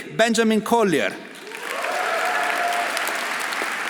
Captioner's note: audience applauding; audience cheering